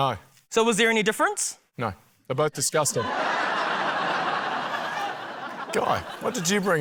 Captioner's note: laughter